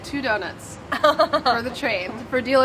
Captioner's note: laughs